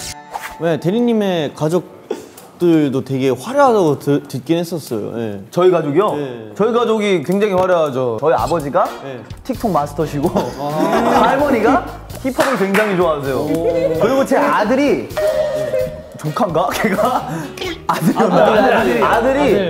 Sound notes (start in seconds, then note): 17.3 gasp!